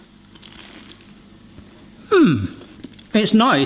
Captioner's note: samosa crunches